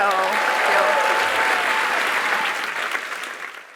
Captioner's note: applause